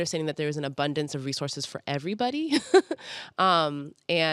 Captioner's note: chuckles